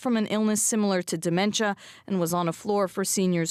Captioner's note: speaking French